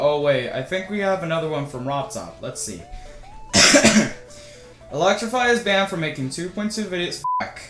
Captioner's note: ahem